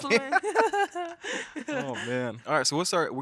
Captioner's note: all laughing